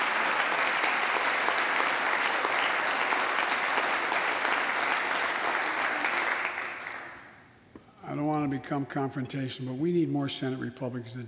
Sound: applause

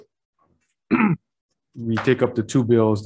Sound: clears throat

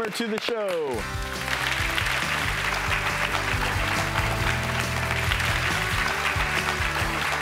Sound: audience clapping; upbeat music

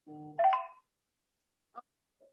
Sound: phone beeps

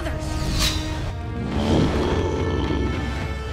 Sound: growling

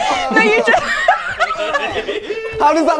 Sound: people laughing

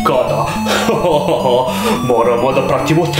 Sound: laughs

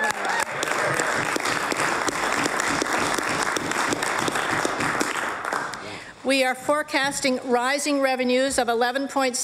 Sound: applause

